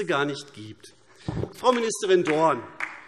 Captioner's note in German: Beifall AfD - Zuruf SPD: Das ist ja unglaublich!